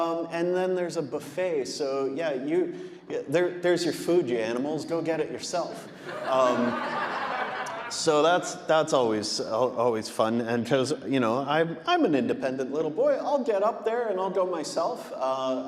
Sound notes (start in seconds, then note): 5.8 audience laughing